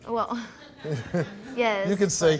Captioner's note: laughs